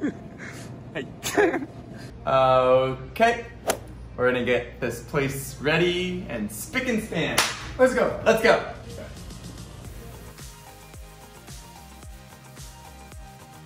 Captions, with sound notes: I can't! - Okay! (swoosh) We're gonna get this place ready and spick and span. (claps) - Let's go. (upbeat music)